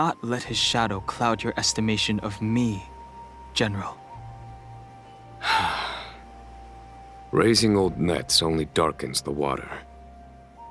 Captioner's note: sigh